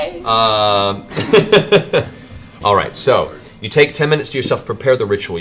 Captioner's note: laughs